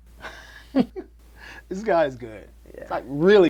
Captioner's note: chuckles